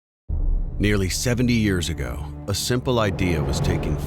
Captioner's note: voiceover